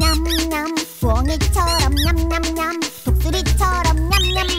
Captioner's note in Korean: 냠냠냠